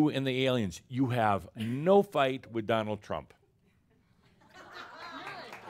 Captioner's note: some chuckles and applause